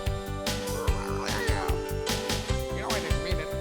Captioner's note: צווחות